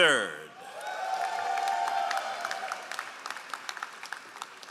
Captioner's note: all applauding